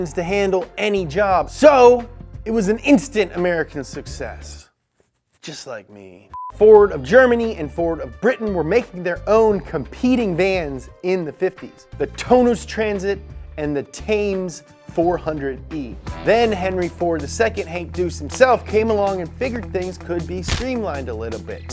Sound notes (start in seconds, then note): 6.3 beep